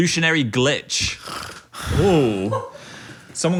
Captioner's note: snores